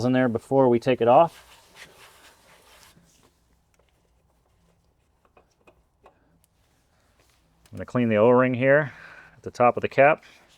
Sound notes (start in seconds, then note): 2.6 silence